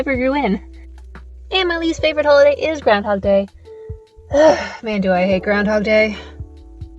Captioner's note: sigh